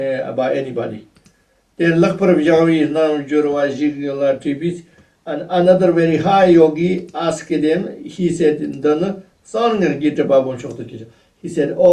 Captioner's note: tibetan